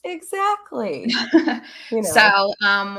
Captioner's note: chuckles